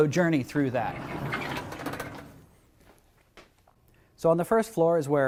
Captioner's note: door rustling